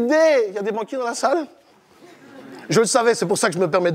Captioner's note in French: Rires